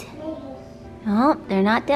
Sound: baby mumbling

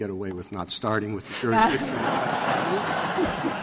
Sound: laughter

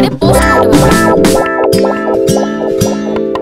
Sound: knocking

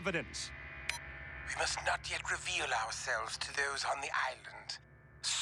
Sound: beep

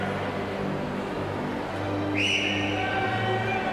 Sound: whistling

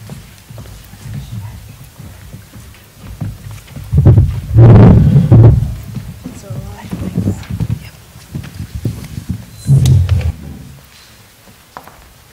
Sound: clapping

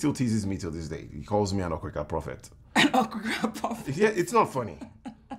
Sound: Efosa laugh

